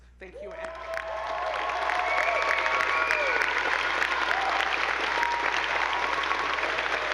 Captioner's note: audience cheering; attendees applauding